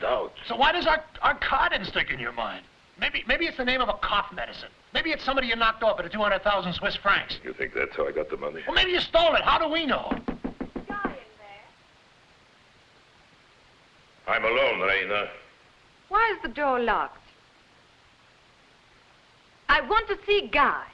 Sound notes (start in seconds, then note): 10.0 knocking